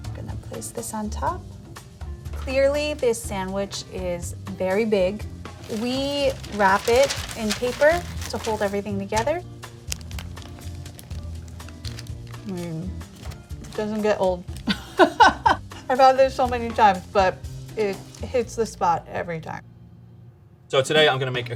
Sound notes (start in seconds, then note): 9.6 sandwich crunching; 14.6 laughs